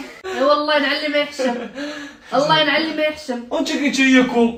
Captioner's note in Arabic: ضحك